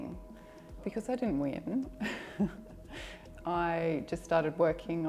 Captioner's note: laughs